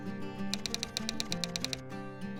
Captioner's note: typewriter sounds